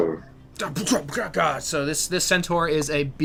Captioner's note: fighting noises